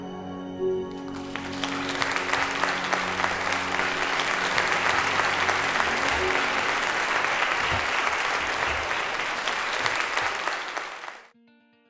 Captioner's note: applause